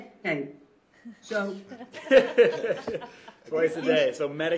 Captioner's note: laughter